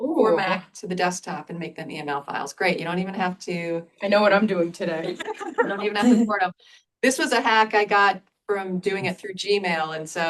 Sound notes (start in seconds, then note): 5.1 laughter